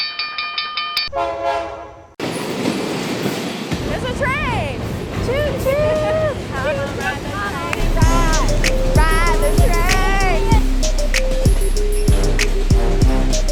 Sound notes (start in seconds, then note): 1.1 train horn honking; 2.2 train engine roaring; 10.7 upbeat music